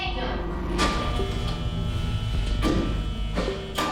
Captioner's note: doors buzzing